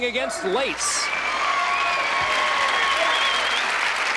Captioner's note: cheering and applause